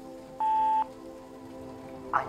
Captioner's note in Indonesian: Memutar pesan suara